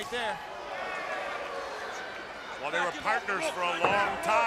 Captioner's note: crowd chatter